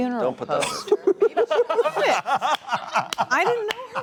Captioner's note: laughter